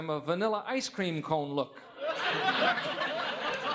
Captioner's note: audience laughing